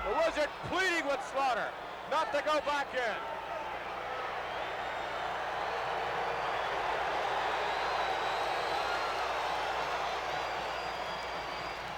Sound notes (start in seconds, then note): 7.4 crowd cheers